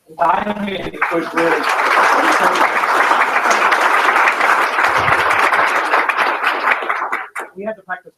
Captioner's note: applause